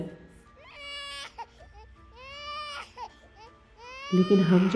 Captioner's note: crying baby